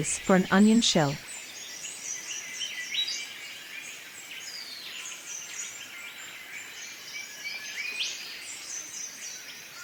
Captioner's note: birds sounds and chirps